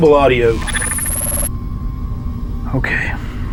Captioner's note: static buzzing